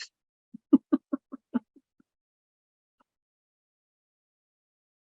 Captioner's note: laughing